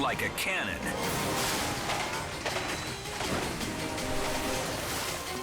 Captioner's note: water splashing